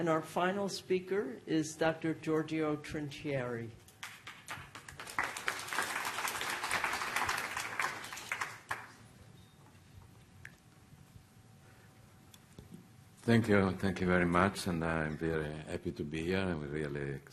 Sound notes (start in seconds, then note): 4.0 applause